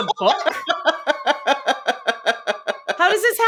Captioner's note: laughing